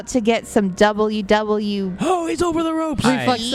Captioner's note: in an announcer voice